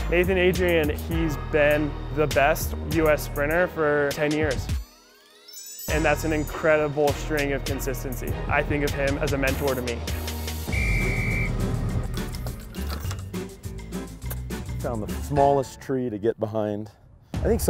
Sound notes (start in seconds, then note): 10.6 whistle; 11.8 happy music